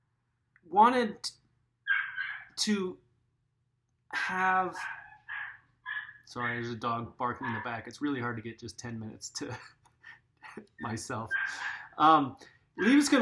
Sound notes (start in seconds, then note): 4.7 dog barking in background